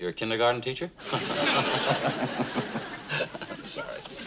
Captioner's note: chuckling